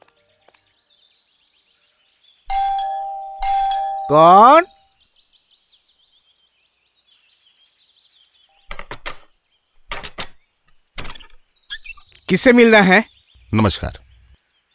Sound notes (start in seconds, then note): 2.5 door bell rings